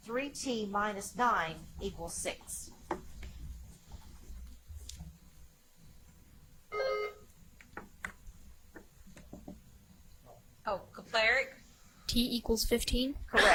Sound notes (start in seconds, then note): 6.7 buzzer chimes